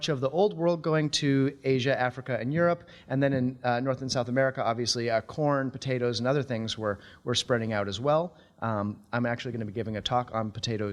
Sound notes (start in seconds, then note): none